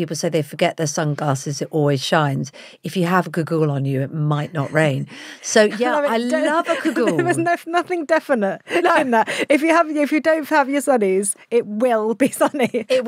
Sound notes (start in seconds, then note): 5.6 laughs